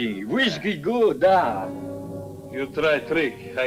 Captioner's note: speaking Russian